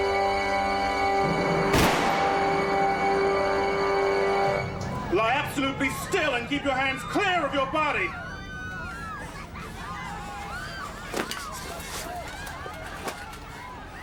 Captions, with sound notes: (gun firing) - Lie absolutely still (people screaming) and keep your hands clear of your body.